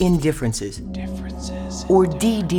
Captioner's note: man whispering